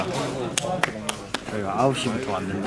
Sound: applause

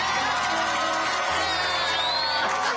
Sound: cheers and applause

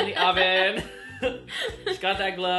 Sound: laughs

